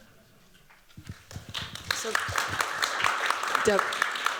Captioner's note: applause